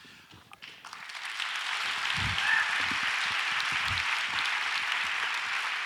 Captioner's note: audience applauds